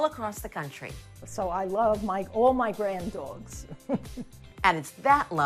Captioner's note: chuckles